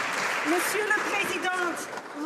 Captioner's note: some Applause